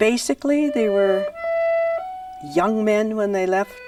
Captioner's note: voiceover